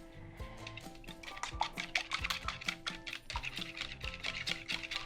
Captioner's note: whisk clinks